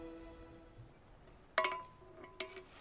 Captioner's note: metal clanking